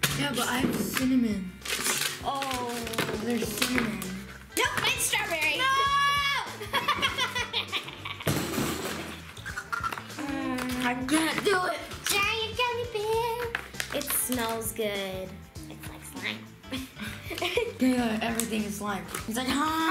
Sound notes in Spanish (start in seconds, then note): 6.5 ríe; 10.1 gemidos; 16.6 se ríe